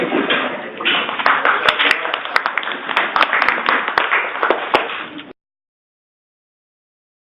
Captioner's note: applause